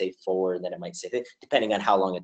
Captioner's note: audio skips